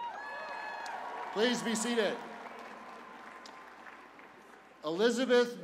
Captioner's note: cheers and applause